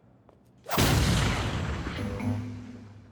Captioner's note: explosion